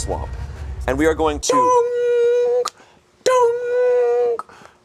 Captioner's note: beeping